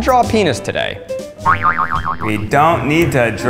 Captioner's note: boing